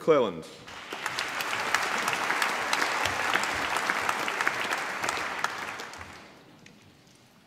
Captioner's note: applause